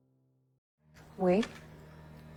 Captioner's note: voiceover